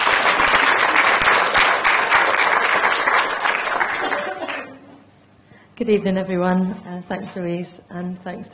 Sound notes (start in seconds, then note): 0.0 applause